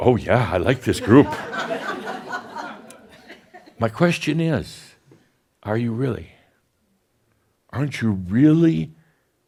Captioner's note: more chuckles